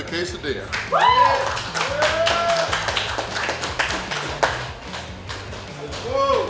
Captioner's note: cheering & Clapping